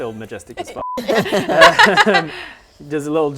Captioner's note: laughs